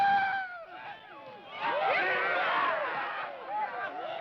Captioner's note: men cheering